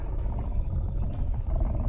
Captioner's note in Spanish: gruñendo